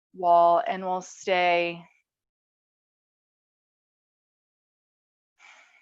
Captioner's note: breathes deeply